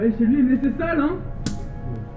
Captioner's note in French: Claque